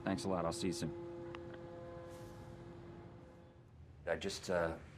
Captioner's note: boat horn blaring